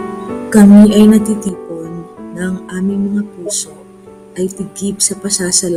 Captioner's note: person speaking in foreign language